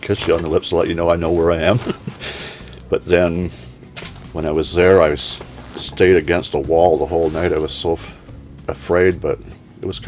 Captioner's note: laughs